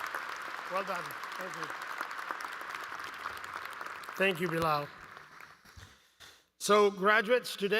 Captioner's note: applause